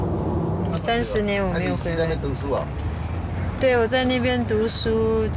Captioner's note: speaking in foreign language